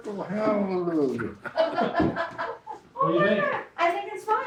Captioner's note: laughter